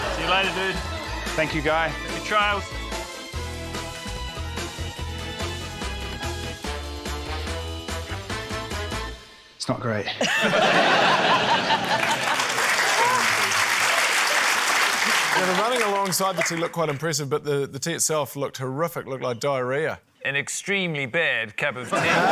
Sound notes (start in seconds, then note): 10.1 laughter; 11.6 applause